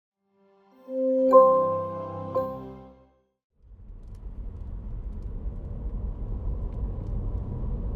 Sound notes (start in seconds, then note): 4.1 engine rumbling